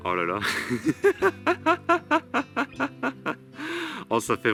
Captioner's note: laughs